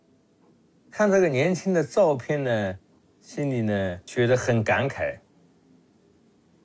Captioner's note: speaks in Chinese language